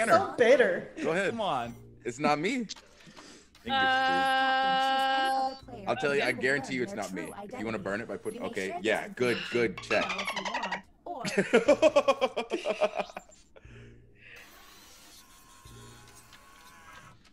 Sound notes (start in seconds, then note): 12.3 laugh